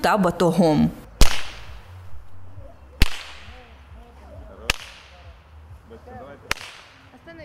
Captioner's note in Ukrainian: звук ударів батога